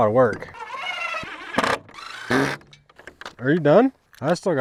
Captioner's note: drilling clicks